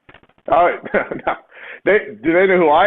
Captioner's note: laughs